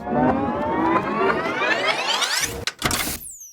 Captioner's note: graphics clicking; audio warbling